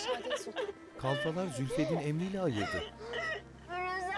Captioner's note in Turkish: Ağlama sesi